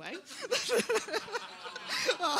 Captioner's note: laughter